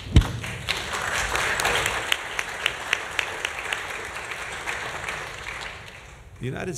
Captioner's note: applause